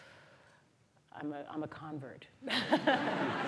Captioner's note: laughter